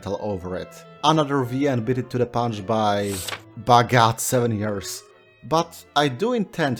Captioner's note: calendar flip